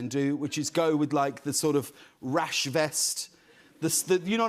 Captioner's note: none